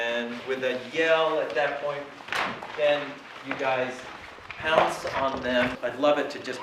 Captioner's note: papers rustling